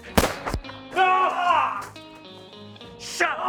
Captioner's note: Waylon groaning